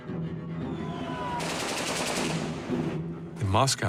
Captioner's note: gunfire erupts